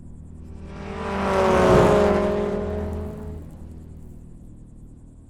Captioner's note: car engine rumbling